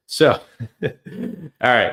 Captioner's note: laughs